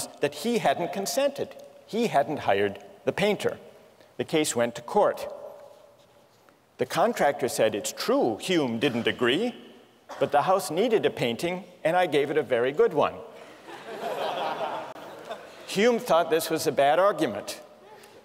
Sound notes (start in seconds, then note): 13.4 laughter